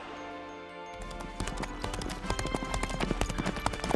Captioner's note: horse galloping